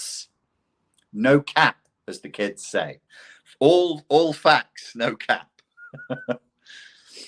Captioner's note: laughs